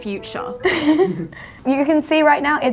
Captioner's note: laughs